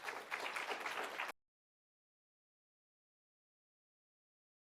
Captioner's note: audience applause